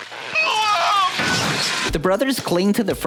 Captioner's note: wails